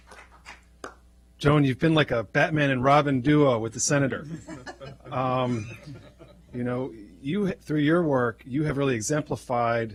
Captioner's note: clapping